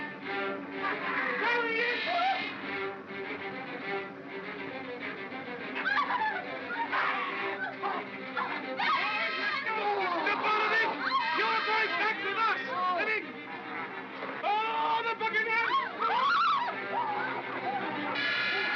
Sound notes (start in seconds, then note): 0.7 Barnaby cackles; 3.4 suspenseful music; 5.8 screaming & growling; 13.4 growling; 15.6 Bo Peep yelps; 16.0 Stan screams; 17.7 suspenseful music